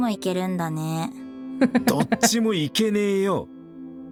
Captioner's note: chuckles